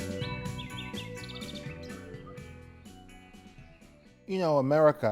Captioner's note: birds chirping and dog barking